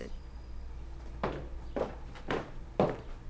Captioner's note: footsteps